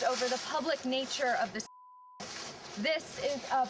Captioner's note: beeping